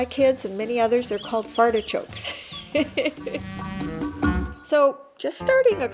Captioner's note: chuckles